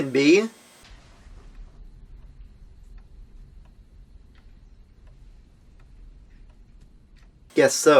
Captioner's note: silence